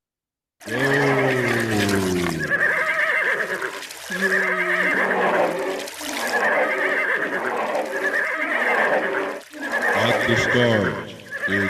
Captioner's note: spammed horse noises